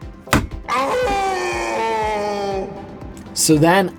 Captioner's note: Wallet screaming